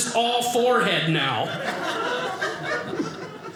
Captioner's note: audience laughing